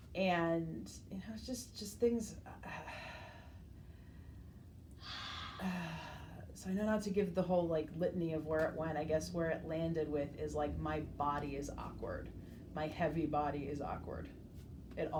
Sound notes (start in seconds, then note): 2.7 sighs; 5.0 exhales